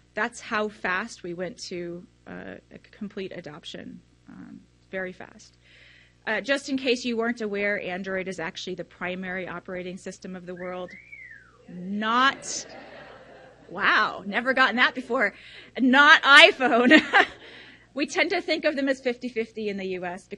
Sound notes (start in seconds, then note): 10.8 attendee whistles; 12.3 audience laughs; 16.5 laughs